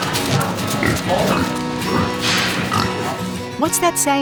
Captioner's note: pig grunting